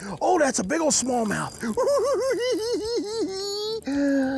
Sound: giggles

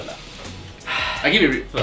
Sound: sigh

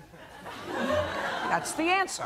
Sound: laughter

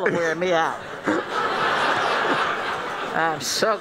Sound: laughing

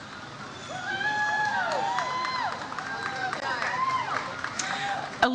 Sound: audience cheers

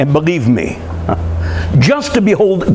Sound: dry laugh

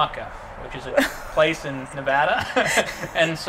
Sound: laughs

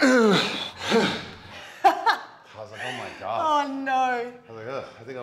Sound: laugh

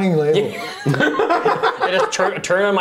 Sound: laughing

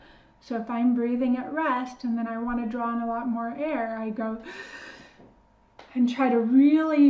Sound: inhales deeply - for science

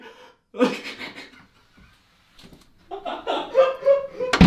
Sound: Harry laughing

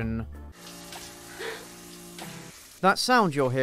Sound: shower noises

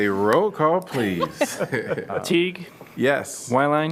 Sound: laughter

